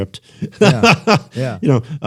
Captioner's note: laughter